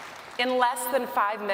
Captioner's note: applause